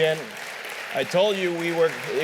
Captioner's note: applause